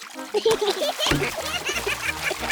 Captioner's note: oinks; both giggle